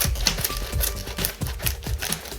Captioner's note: cutting plastic